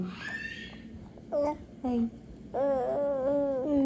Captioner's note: cooing; coos